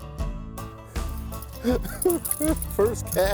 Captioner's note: laughing